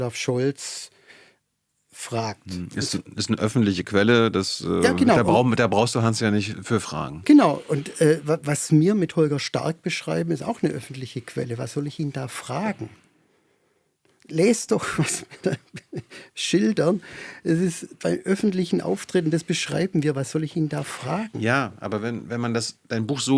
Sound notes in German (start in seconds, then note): 14.8 gelächter